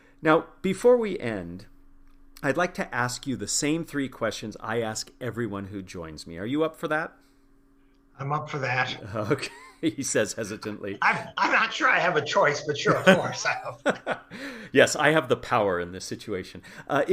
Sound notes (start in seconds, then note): 10.7 laugh